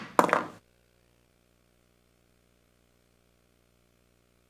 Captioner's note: gavel bangs